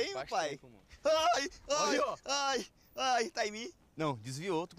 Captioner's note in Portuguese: gritos de susto